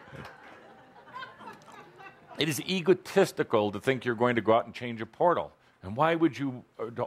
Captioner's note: laughter